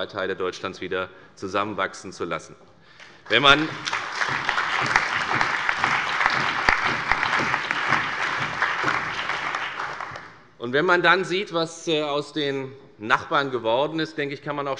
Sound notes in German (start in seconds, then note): 3.1 Beifall bei der FDP, der CDU, der SPD und dem BÜNDNIS 90/DIE GRÜNEN